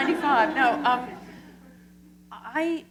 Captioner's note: laughter